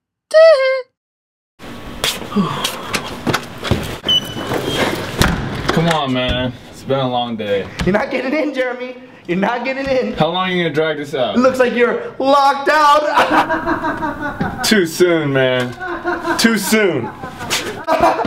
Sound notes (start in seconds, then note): 2.3 sighs; 13.0 laughs